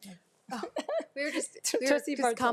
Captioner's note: laughs